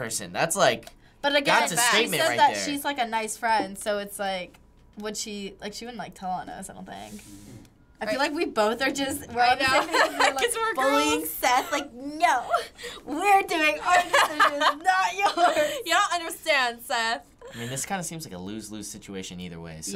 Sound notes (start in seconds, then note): 9.5 laughing